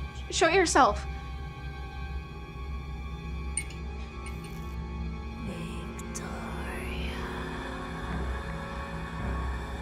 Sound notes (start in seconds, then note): 3.6 lights flicker